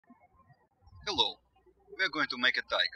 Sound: birds chirping

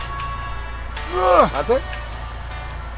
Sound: groans

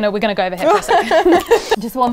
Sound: ladies laughing

